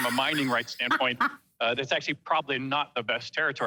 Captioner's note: laughs